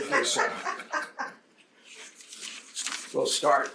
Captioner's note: panelists laughing